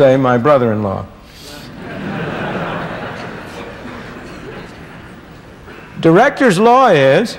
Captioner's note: laughter